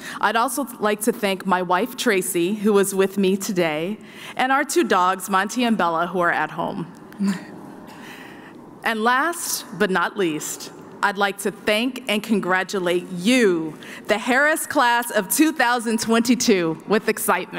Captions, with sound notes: I'd also like to thank my wife, Traci, who is with me today, and our two dogs, Monty and Bella, who are at home. [LAUGHS] And last but not least, I'd like to thank and congratulate you, the Harris class of 2022, with excitement.